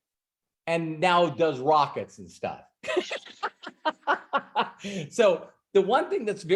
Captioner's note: laughs